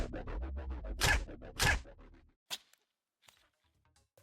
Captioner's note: gun banging